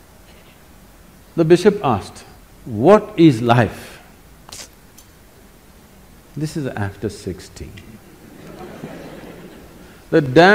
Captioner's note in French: rire